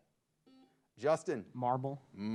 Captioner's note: buzzer beeps